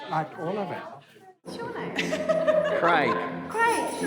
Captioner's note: laughter